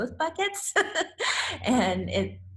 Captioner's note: laughs